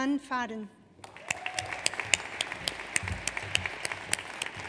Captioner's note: audience applauds